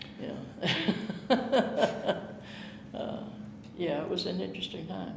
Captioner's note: chuckling